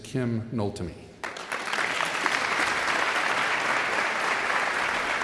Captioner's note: all clapping